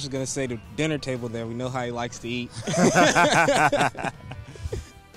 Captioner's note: they laugh